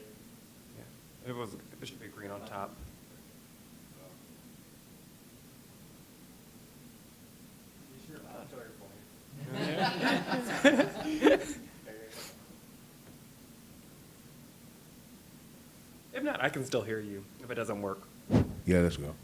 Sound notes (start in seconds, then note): 9.4 laughter